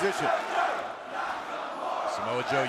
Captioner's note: crowd cheering